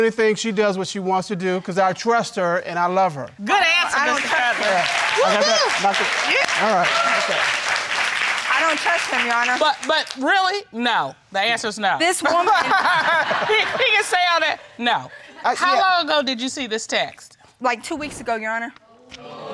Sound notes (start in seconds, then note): 3.6 audience applauding; 12.4 audience laughing